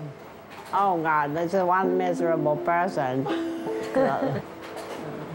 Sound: laughs

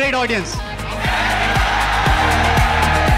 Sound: cheering

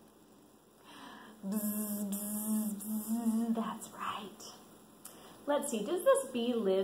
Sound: buzzing

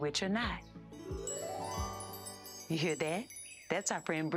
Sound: chiming

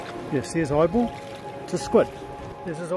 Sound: waves Lapping

